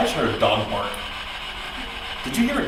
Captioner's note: static buzzing